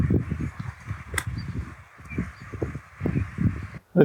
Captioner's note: wind